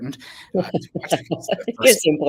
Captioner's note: laughs